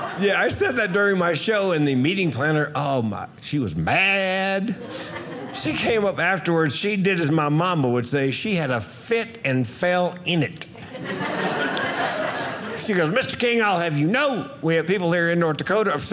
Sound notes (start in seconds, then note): 10.7 audience laughing